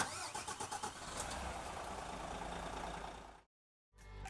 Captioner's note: car engine starting